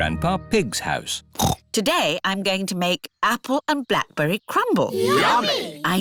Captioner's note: snorts